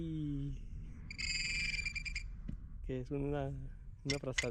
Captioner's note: beeping